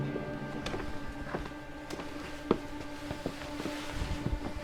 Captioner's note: footsteps pattering